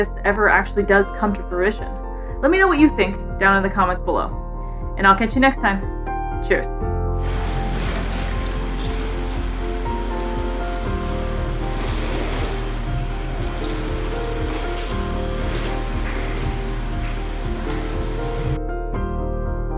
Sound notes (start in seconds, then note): 7.0 background music; 7.2 sea otters playing in ice; 18.6 background music